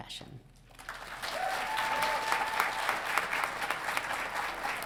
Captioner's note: audience applauding